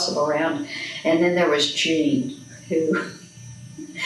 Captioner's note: laughs